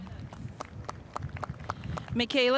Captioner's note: spectators applauding